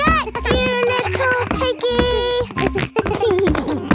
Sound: giggles

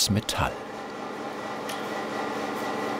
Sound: machine noise

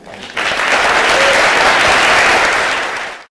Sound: applause

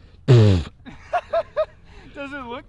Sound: laughing

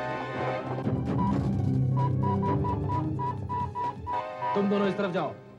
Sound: beeps

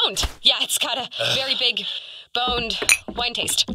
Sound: Spy sighs, annoyed

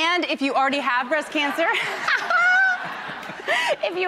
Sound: audience laughs

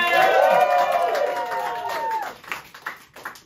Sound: cheers and applause

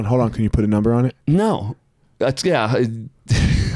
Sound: chuckles

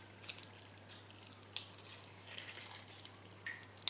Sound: scooping continues

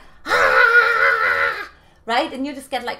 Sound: screams

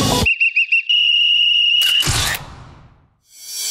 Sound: whistling

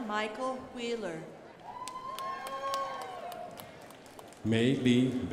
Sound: crowd applauding

